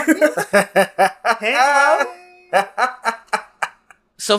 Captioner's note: laughs